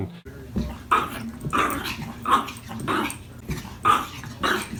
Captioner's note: dog growling